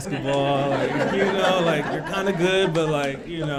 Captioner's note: laughing